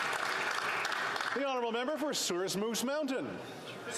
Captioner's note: applause